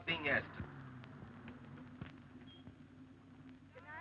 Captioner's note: car approaching